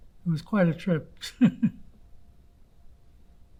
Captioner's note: laughing